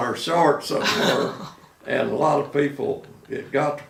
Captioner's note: laughing